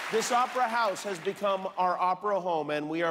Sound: cheers and applause

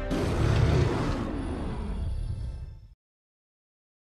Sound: roar

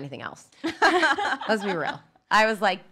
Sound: women laugh

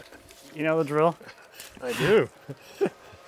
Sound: laughs

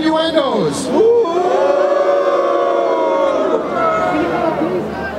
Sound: crowd: Boo!

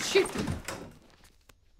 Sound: door opens

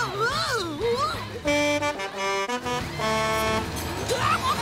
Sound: horn honking

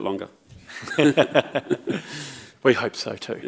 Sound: chuckles

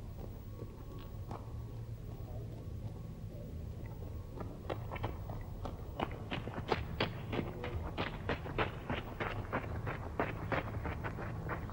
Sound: gravel crunching

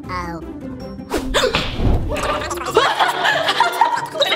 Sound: laughing; gasping

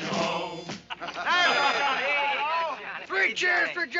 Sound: soldiers laughing

